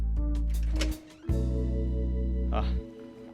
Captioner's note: pleasant groovy music; door clicks open